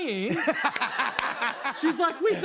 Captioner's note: laughter